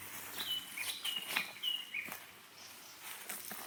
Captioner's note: footsteps pattering; bushes rustling